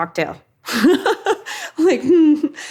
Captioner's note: Katie laughs